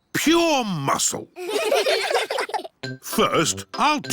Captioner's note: all giggling